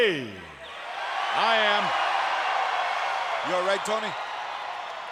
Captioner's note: audience cheering